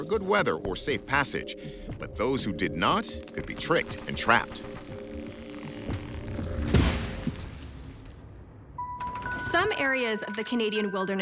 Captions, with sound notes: or safe passage, but those who did not could be tricked and trapped. (tree thudding) - Some areas of the Canadian wilderness